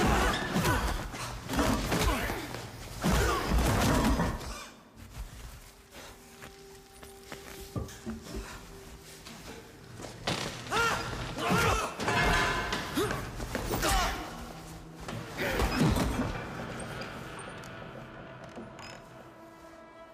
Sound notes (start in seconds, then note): 0.1 blows thudding; 10.6 men groaning; 11.3 blows thudding